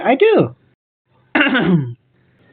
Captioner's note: clears throat